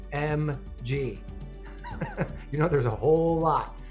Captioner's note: laughs